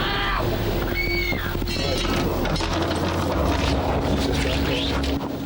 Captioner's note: teenagers screaming